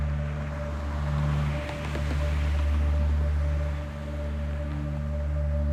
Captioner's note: traffic whooshing